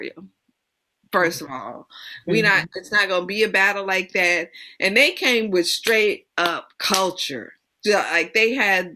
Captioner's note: claps